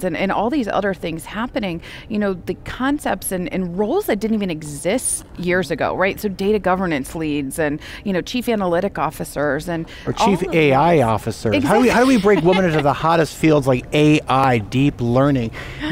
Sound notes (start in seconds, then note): 11.6 laughing